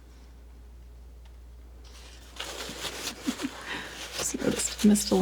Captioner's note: chuckles